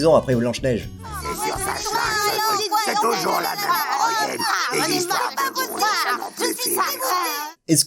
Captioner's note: tex avery complaining gibberish